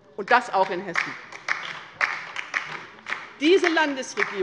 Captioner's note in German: Beifall bei der LINKEN